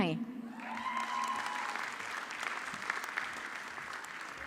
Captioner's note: audience clapping